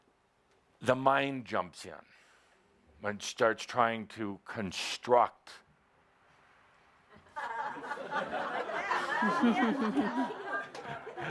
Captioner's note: laughter as the door blows open